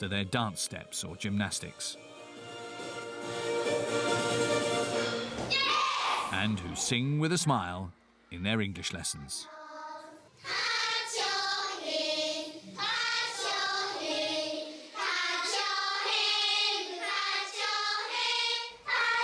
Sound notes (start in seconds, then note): 5.6 children In Unison